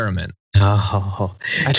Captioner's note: laugh